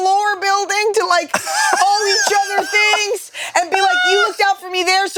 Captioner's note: laughs